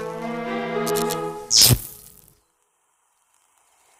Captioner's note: electricity crackles